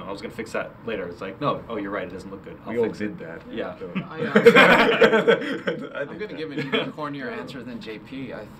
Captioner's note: laughing